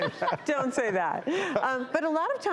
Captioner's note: laughs